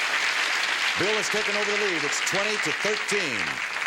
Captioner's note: audience applause